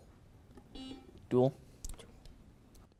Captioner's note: buzzer beeps